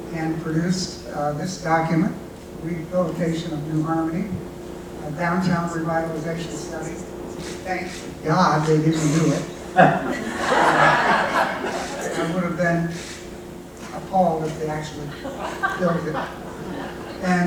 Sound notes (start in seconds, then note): 8.9 laughing